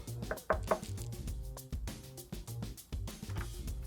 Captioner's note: knocking on door